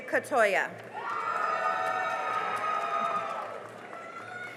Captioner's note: cheering and applause